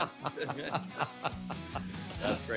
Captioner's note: laughter